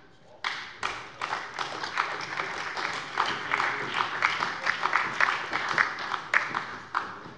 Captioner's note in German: Beifall bei der SPD